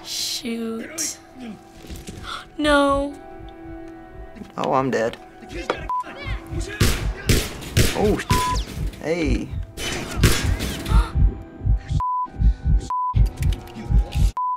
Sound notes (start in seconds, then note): 2.1 gasps; 6.8 gunfire; 7.8 Joel's heart thumps; 10.2 Joel's heart thumps